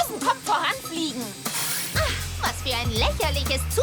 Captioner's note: gasps